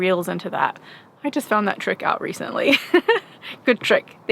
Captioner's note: laughs